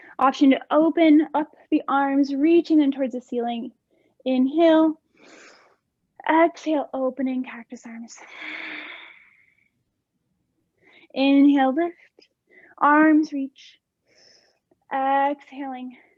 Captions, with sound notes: Option to open up the arms reaching and towards the ceiling, inhale (inhaling), exhale opening cactus arms (exhaling), inhale the arms reach exhaling cactus arms,